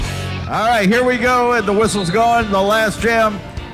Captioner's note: bright rock music; crowd clapping; whistle whistling